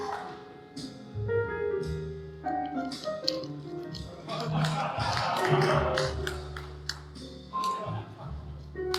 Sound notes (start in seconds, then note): 0.0 jazz piano continues; 4.1 audience laughing